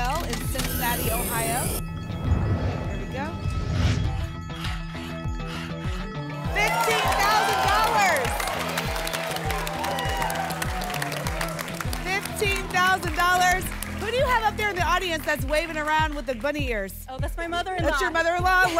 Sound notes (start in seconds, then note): 3.8 alarms; 3.8 scratching sounds; 8.5 applause and cheering